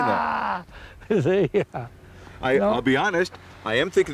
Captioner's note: laughs